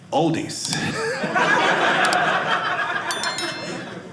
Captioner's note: audience laughing